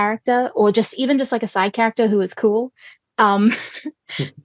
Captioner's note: laughs